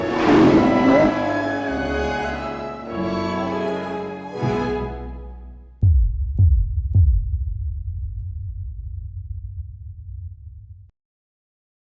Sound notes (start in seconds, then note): 0.3 lighthearted music; 5.8 heartbeat thumping